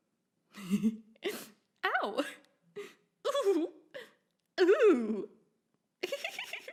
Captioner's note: laughs